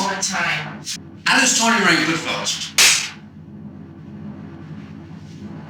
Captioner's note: loud crack